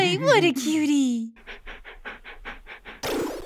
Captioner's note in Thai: แฮ่ก